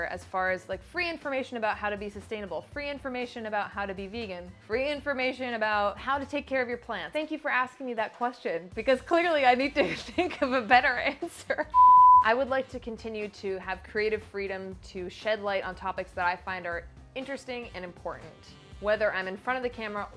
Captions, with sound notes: as far as free information about how to be sustainable, free information about how to be vegan, free information about how to take care of your plants. Thank you for asking me that question, because clearly, I need to think of a better answer. (beep) I would like to continue to have creative freedom to shed light on topics that I find are interesting and important. Whether I'm in front of the camera